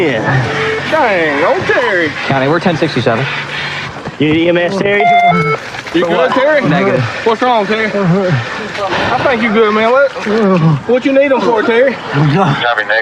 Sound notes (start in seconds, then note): 0.3 beepsps; 6.0 groroans